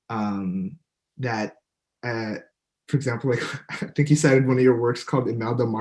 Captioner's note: laughs